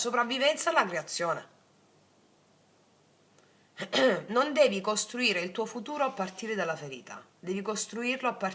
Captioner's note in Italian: schiarire la voce